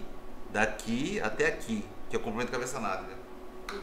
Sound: none

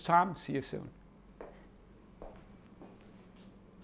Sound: footsteps tapping

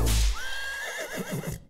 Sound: horse neighs

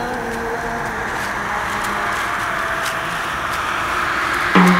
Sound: wind blowing

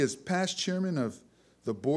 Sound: none

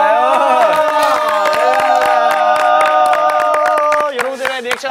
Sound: clapping hands

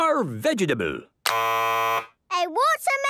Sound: buzzes

